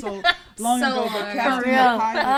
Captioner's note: laughs